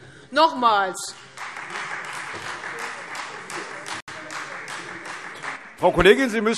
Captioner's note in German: Beifall Freie Demokraten